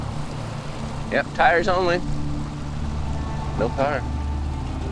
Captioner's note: water sloshing